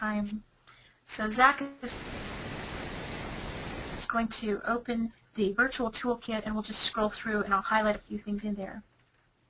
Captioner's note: static